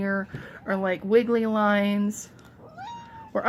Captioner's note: loud meow